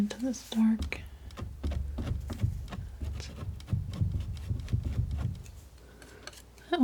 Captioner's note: scratching